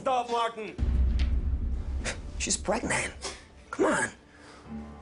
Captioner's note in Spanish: Golpeando la pared